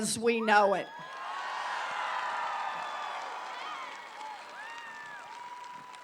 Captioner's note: applause